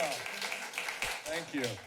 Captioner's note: applause